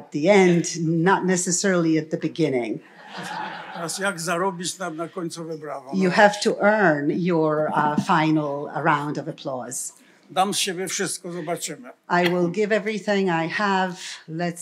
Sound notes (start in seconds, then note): 2.8 laughter; 3.8 foreign language; 10.1 foreign language